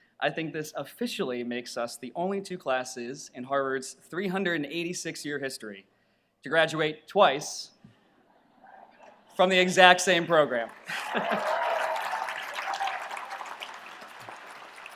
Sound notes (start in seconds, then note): 10.5 audience applauds